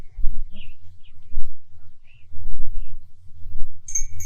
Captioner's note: birds singing